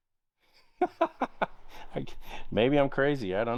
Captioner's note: laughing